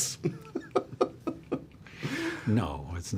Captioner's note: laughs